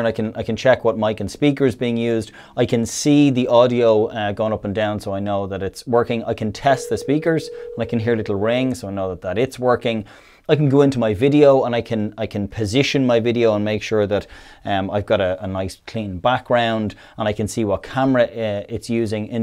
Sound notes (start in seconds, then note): 6.7 ringing